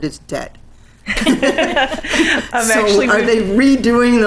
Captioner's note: laughing